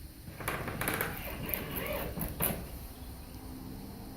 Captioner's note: drilling